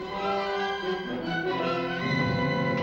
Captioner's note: gun shot